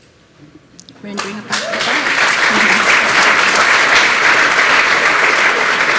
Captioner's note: applause